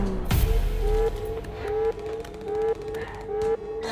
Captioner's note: alarm blaring